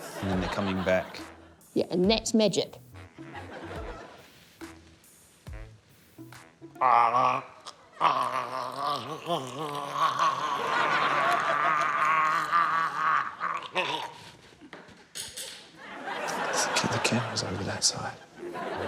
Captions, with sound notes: and then they're coming back. - Yeah, andthat'smagic. (GARGLES) (LAUGHTER) (GARGLES) (PAINTBRUSH CLATTERS) The camera's over that side.